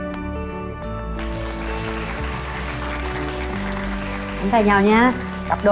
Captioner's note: applause